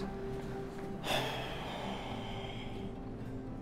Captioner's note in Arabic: تنهيدة